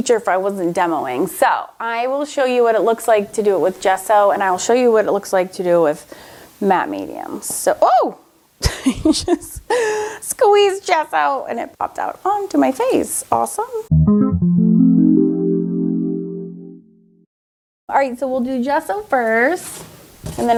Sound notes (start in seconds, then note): 8.7 laughs; 13.9 whimsical music